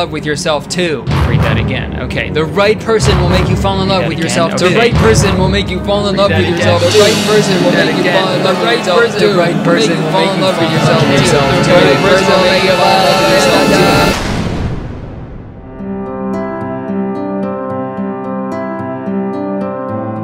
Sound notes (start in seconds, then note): 7.1 high-pitched automated voice; 15.6 soft music